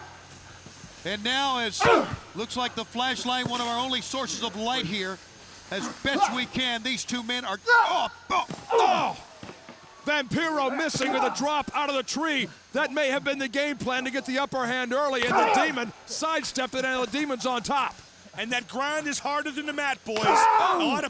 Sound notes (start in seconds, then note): 1.0 both groaning; 8.0 both grunting